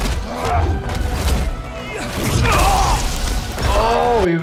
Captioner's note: blows landing; characters grunting